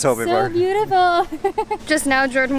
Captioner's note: laughs